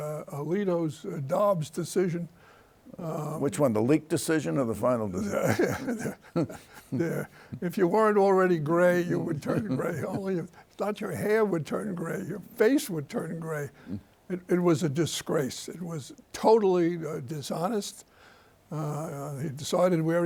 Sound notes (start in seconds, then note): 5.1 laughs